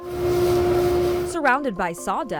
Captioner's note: duster blowing